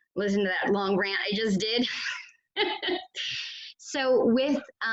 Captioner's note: laughs